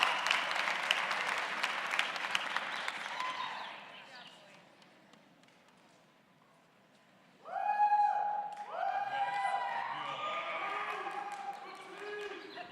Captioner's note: cheers and applause